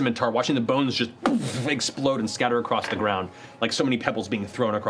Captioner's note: boom